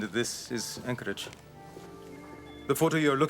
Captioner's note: footstep